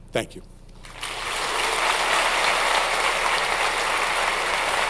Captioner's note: audience applauds